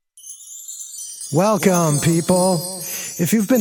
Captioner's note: chimes